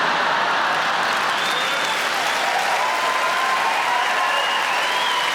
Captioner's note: audience laughing; audience cheering